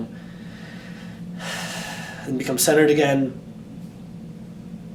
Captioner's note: exhales calmly